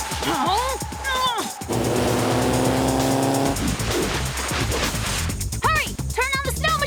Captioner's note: grunting